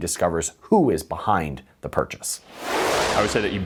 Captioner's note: frame whooshing